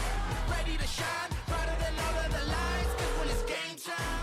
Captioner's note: phone ring